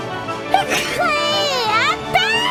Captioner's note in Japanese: くしゃみ